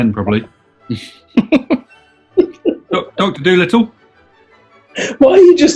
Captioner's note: laughing